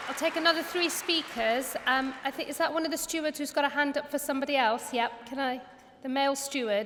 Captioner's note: applause